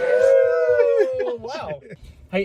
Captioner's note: group cheers